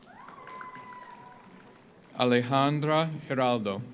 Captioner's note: audience cheers; audience applauds